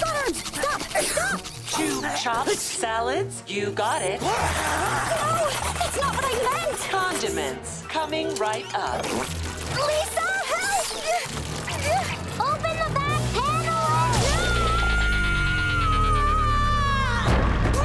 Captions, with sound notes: Robot arms, stop. Stop! Two chopped salads? You got it. [screaming] No, that's not what I meant! Condiments, coming right up. Lisa, help! [grunting] Open the back panel and-! [screaming]